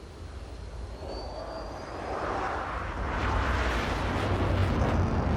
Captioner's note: jet engine roars